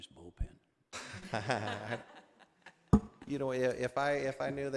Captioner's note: laughing